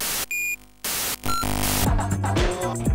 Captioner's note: error sounds